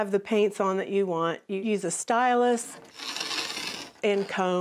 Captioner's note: scraping